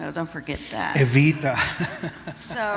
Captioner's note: laughter